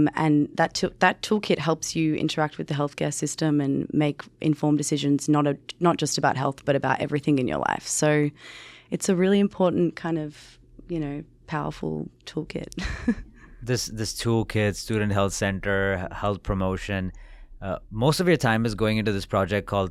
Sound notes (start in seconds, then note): 13.6 chuckles